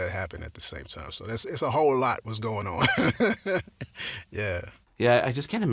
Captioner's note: laughs